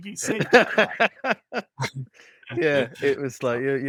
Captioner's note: laughs